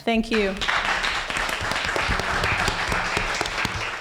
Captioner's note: applause